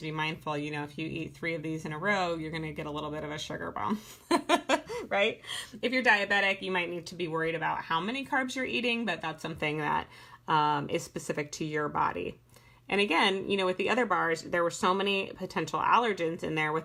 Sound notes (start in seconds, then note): 4.2 laughing